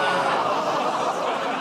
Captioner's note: laughter, groaning